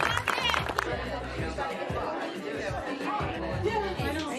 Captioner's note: applause and cheers; chatter